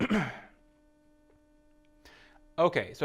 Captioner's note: clearing throat